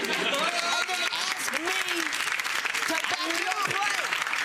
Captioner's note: audience clapping